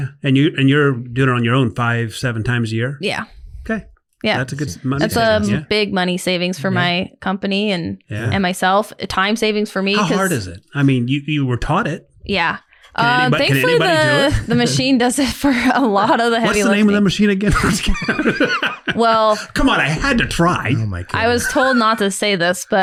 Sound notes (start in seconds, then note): 18.7 all laughing